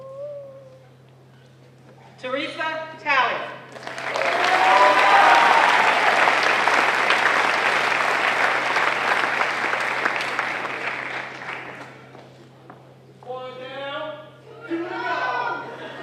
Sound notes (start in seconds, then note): 3.7 applause